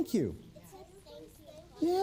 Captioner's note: children saying thank you